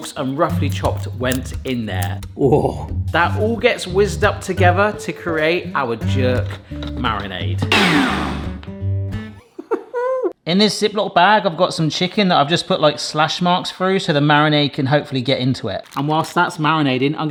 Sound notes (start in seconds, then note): 7.7 blender whirs; 9.3 chuckles